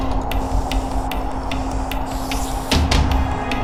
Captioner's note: deep breathing